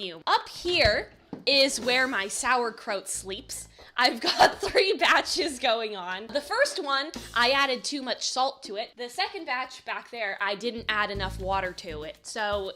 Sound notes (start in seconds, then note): 3.7 laughing